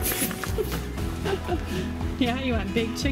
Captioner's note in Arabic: ضحك